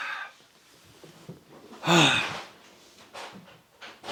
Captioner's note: breathing loudly